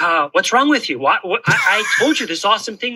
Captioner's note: laughs